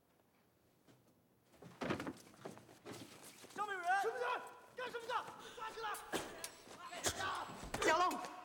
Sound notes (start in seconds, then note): 2.8 men Shouting